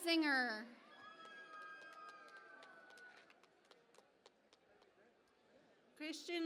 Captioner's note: cheering and Applause